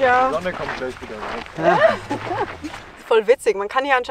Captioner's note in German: Lachen